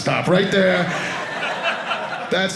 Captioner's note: audience laughing